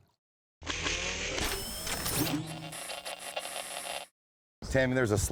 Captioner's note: mechanical and static noise